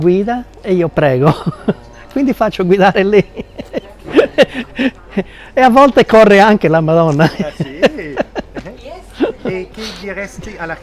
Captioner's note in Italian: risate